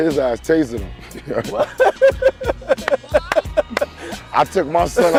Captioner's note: laughing